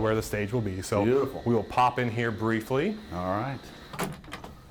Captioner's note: door opening